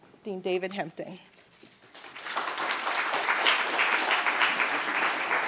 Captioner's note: applause